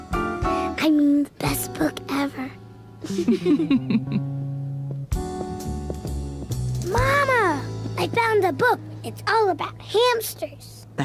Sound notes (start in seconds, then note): 0.6 whispering; 3.0 both laughing; 6.6 whispering